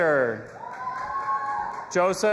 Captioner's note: audience applauding and cheering